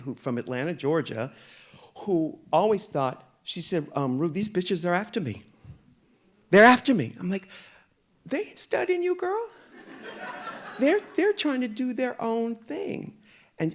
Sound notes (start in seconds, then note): 9.7 audience laughing